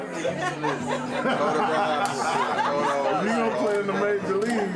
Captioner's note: Mark laughs